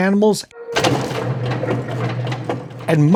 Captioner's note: kiddie ride rattling